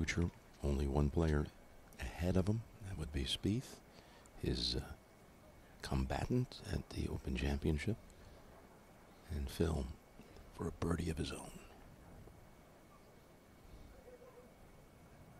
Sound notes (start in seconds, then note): none